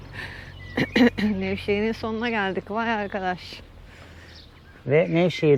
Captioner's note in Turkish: boğazını temizler